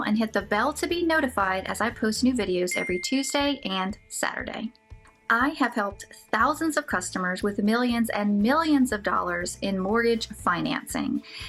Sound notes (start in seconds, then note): 2.7 bell ringing